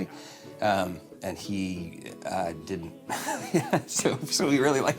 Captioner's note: laughing